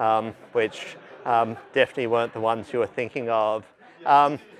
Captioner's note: laughter